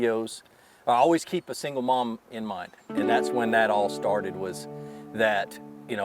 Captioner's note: none